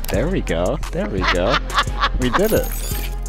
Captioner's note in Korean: 웃음